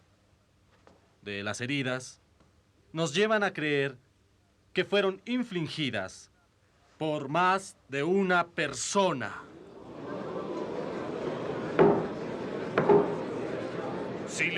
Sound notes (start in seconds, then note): 9.4 crowd murmuring